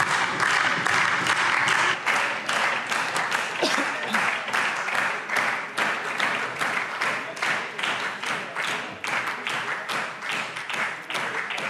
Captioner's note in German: Anhaltender Beifall SPD - Beifall DIE LINKE